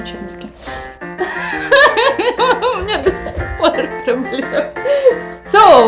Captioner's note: laugh